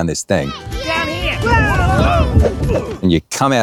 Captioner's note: people chattering; bright music